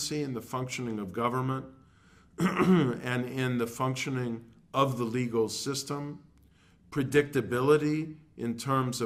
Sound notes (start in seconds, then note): 2.3 cough